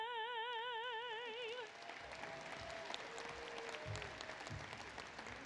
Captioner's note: applause